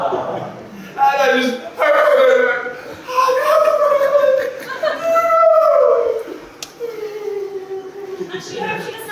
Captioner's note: more wailing